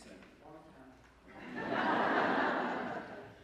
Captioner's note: laughter